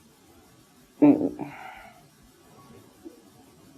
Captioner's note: sighs